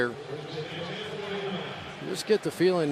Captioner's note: pa announcement